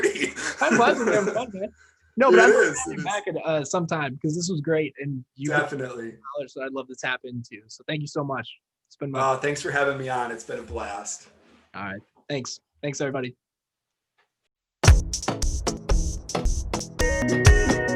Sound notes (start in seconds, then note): 0.0 laughing; 1.0 faintly speaking; 14.8 energetic music